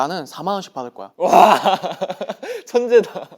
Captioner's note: laughing